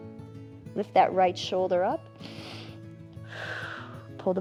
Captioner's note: inhales and exhales